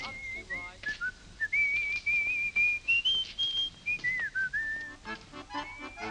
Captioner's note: whistling